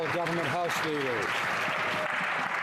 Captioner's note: some Applause